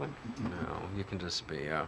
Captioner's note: laughs